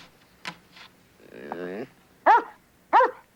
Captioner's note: dog whines